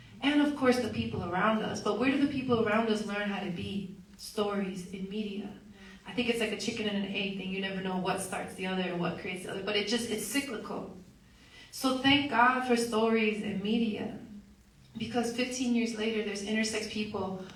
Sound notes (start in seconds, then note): none